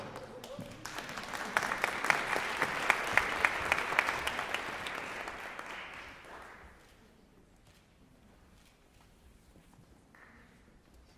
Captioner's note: applause